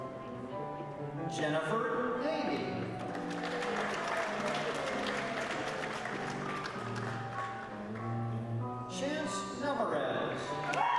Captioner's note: applause and whistling